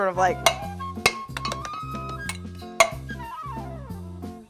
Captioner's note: metal clanking